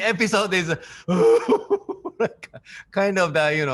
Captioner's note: Takashi laughing; imitates crying